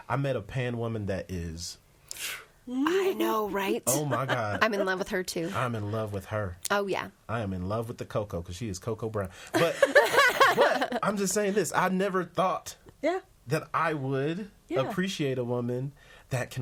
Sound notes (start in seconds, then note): 9.5 all laughing